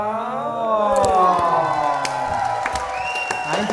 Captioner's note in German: Jubel, Applaus